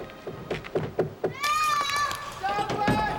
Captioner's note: knocking